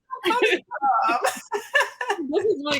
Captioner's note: laughs